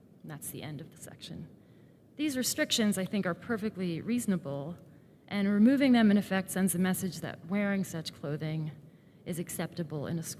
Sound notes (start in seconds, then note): none